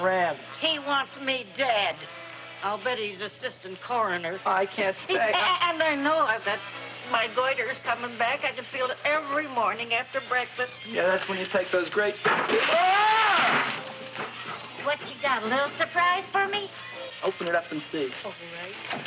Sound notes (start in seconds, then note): 12.3 clattering; 12.5 screaming